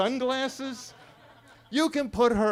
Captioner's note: attendees laughing